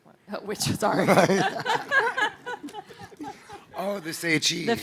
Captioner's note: laughing